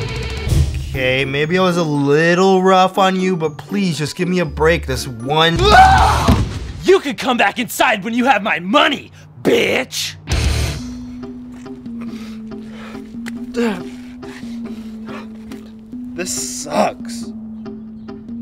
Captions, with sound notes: kay, maybe I was a little rough on you but please just give my a break this one... ahhh you can come back inside when I have my money, bitch (crying) *Grunts* this sucks